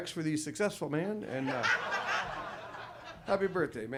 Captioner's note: audience laughs